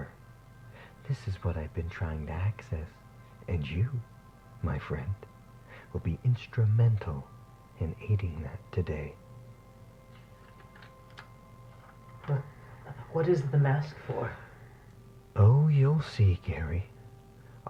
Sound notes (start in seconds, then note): 10.3 shuffling sounds